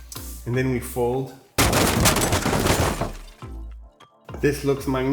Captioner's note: construction sounds